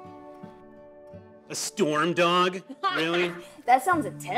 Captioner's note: Keely laughs